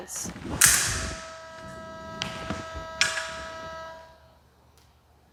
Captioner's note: clicking